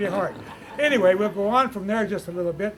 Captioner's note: laughter